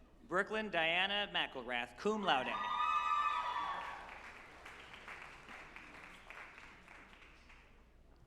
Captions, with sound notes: Brooklyn Dianna McElrath, cum laude, (group applauding and cheering)